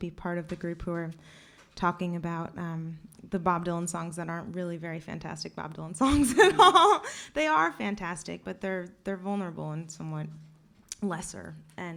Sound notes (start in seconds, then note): 6.0 laughs